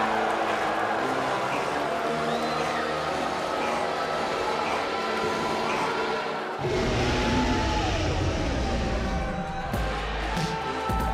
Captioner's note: crowd cheering